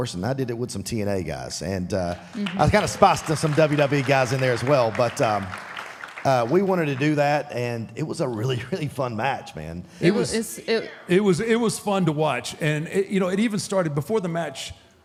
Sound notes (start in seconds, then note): 4.7 audience applauding